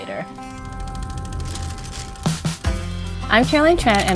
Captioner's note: shutter ticking